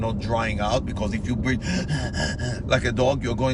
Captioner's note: heavy breathing